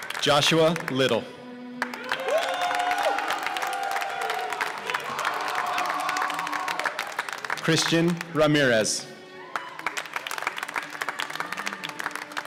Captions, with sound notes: Joshua Little (cheers and applause) Cristian Ramirez (applause)